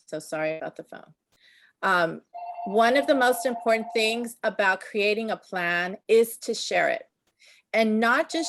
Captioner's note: telephone Ringing